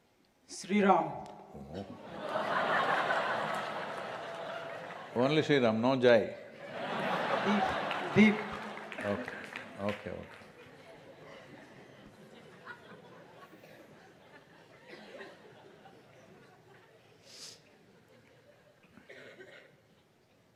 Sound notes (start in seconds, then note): 6.6 laughter